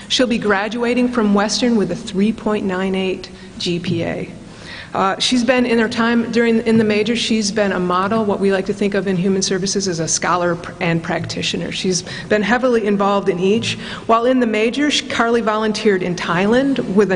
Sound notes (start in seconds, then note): none